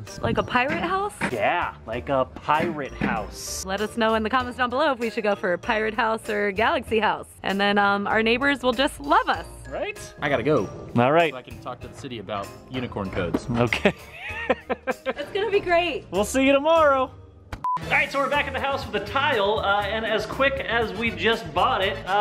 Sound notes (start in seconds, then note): 13.7 laughter